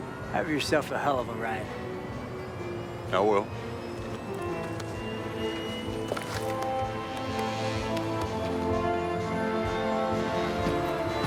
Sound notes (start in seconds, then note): 3.9 footstep